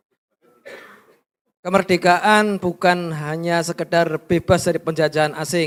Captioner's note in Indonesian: berdehem